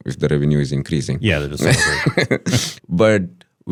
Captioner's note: speaks faintly